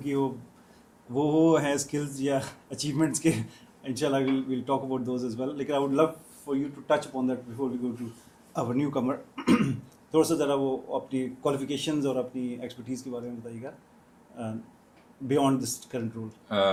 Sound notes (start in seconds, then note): 9.4 clearing throat